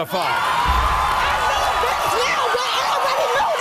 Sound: audience cheers

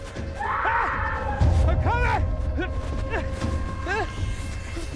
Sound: person breathing

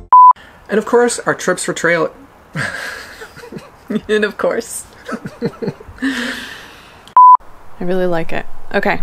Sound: laughing

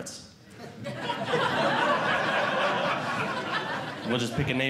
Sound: audience Laughing

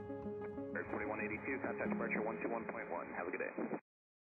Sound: radio chatter

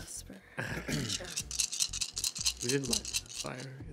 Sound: dice rattling

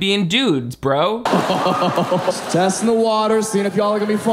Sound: laughs

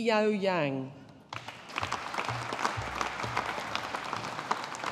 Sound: audience applauding

